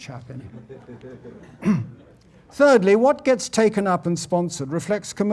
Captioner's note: laugh